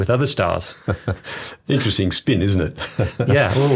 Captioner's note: chuckles